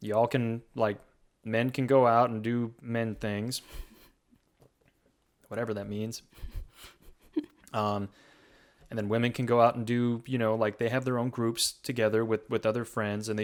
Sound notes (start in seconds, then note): 3.8 chuckles